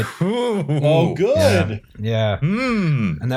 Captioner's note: incredibly nervous laughter